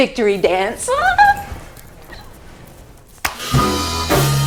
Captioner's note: she squeals